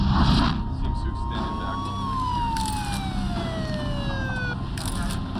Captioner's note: sirens